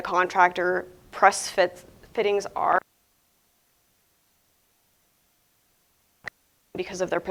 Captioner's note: audio cuts out for a short time